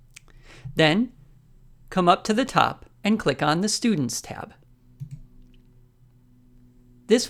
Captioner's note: click